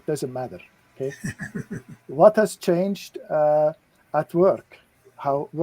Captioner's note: laughter